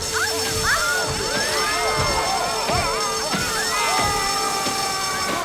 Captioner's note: fire alarm sounds; crowd screams